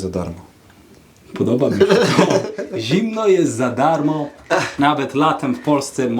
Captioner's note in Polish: śmiech